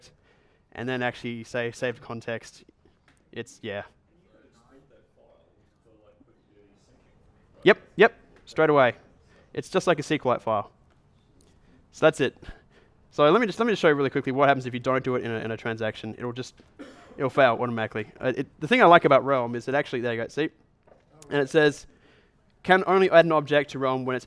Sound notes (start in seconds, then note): 4.8 voiceover